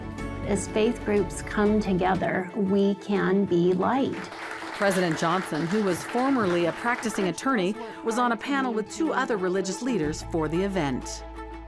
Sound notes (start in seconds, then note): 4.1 audience applauds